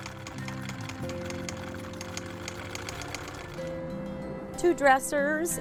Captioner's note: sewing machine whirring